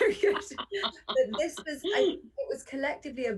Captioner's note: laughter